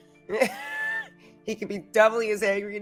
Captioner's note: laughing